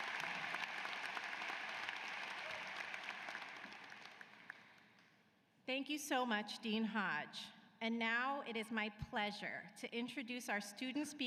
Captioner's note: cheers and applause